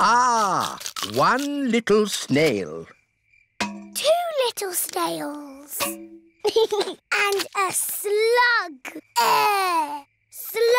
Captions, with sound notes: Ah. One little snail. -Two little snails. -(GEORGE GIGGLES) And a slug. Eugh!